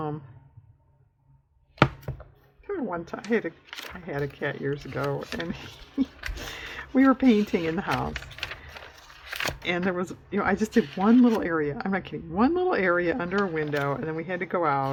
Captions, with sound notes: (laughs) i had a cat years ago, and we were painting in the house, and i just did one little area, i'm not kidding, one little area under a window and then we had to go out,